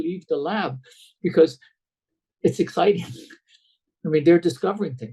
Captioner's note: laughs